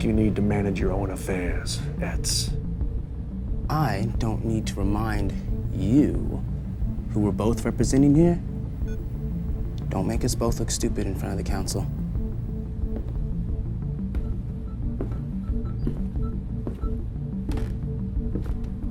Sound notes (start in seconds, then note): 12.7 machinery beeping; 12.7 tense music